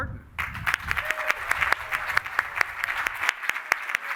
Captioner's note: applause